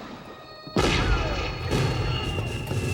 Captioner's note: intermittent gunfire; cannon fire; screaming